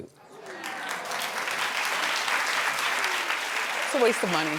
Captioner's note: audience claps